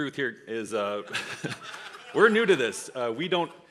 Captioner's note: audience laughs